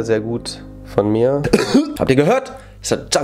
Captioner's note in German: hust